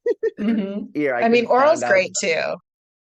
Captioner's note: laughs